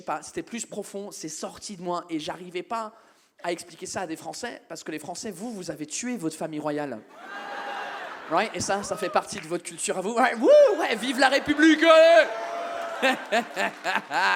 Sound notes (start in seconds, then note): 7.2 audience members whoop